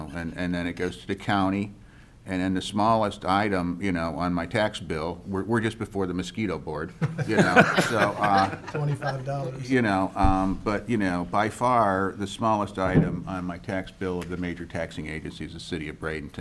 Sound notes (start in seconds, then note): 7.0 laughing